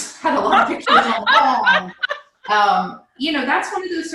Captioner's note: laughs loudly